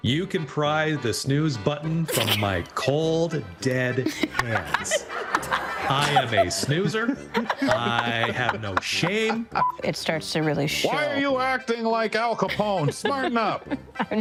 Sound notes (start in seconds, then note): 3.7 attendees laughing; 12.5 laughing